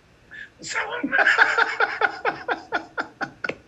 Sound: laughs

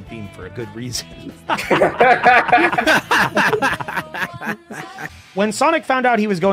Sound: laughter

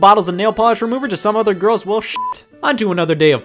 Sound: beep

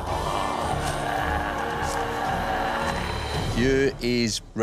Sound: growls

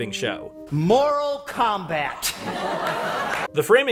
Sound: audience laughing

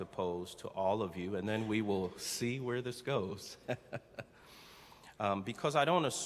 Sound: chuckling

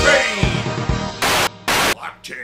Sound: static

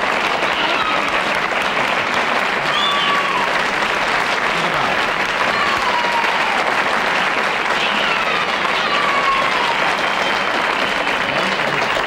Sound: audience cheers and applauds

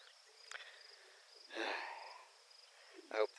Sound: sigh

